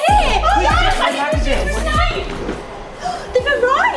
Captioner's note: group yelling